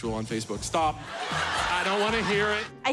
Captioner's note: audience laughing